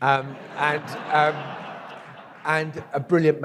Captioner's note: audience laughs